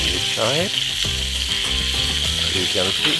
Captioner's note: pan sizzling